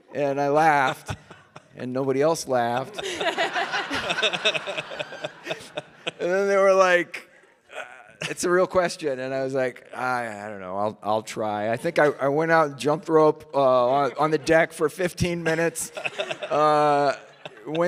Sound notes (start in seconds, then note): 2.4 audience laughing; 15.3 Mike laughs